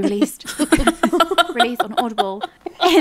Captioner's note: laughing